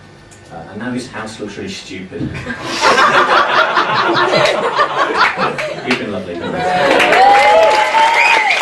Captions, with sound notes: and now his house looks really stupid. (laughing) You've been lovely, guys. (cheering)